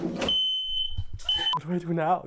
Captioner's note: fire alarm beeps